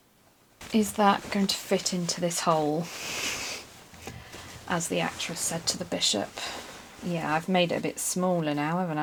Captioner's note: sniggers